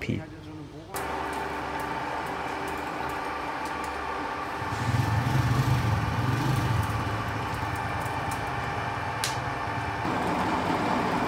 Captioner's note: lathe noise